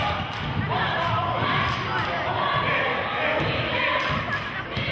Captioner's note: chanting